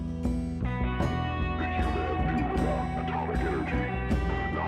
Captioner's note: distorted voice